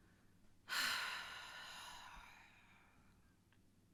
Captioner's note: put-upon genius artist sigh